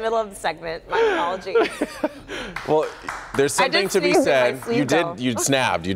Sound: laughter

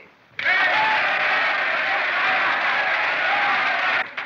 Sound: cheering

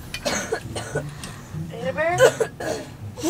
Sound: coughing

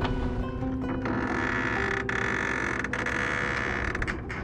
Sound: boom creaks

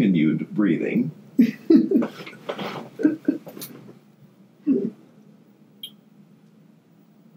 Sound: continues laughing

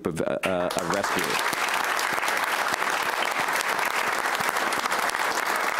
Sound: audience applauds

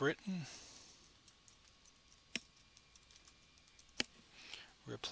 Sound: typing sounds

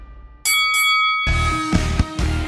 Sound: bells chiming; upbeat rock music

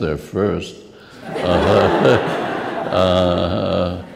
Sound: laughs

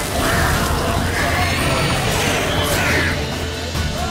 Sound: flames crackle; drowner squeals

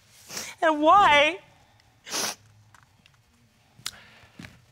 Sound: sniffs

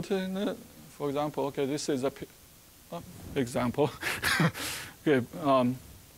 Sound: chuckling

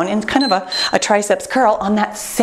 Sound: timer beeps

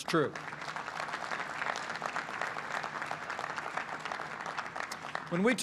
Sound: applause

